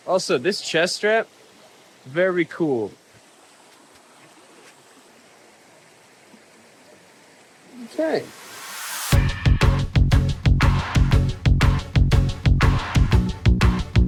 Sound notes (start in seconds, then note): 4.9 water splashing